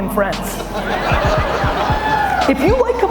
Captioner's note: audience laughs